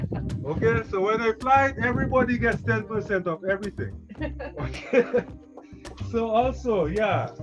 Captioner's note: laughs